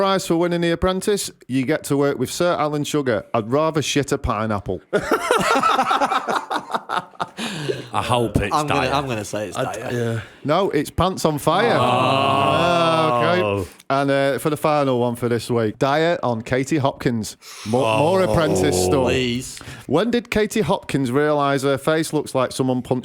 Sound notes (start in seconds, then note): 4.9 laughter